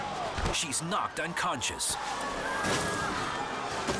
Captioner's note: thuds; kicks thumps